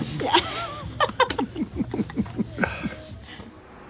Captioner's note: laughter